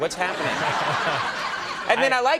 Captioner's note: Paul and audience laughing